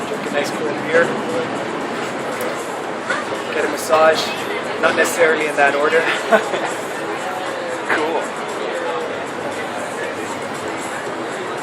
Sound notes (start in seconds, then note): 6.0 laughs